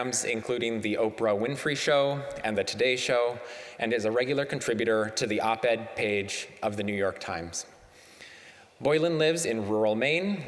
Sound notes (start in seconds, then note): none